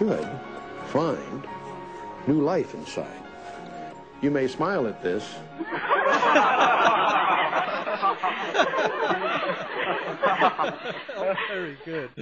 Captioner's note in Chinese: 笑聲